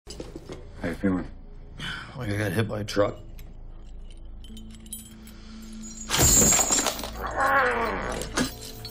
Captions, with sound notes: How you feeling? Like I got hit by a truck. [chains rattling] [grunting]